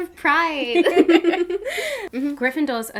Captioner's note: both laughing